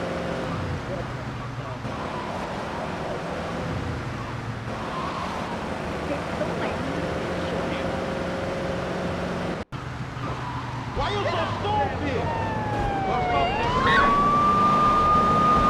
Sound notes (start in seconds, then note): 13.1 siren wailing